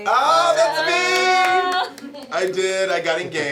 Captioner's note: clapping